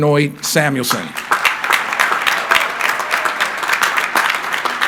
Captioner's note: crowd applauding